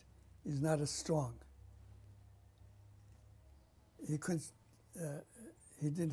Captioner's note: pauses for 3 seconds